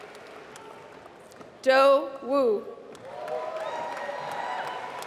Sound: applause

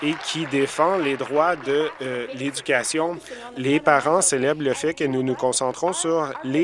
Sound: applause

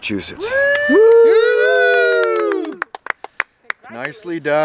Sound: whoops and hollers

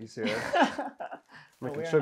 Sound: chuckles

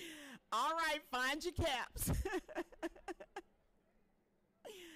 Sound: laughing

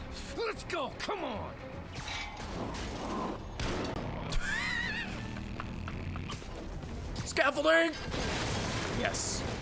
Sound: laughs

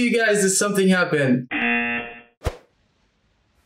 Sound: buzzer rings

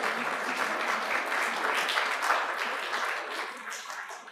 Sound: applause

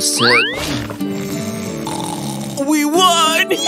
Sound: snoring

